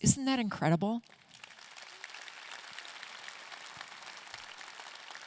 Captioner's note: audience clapping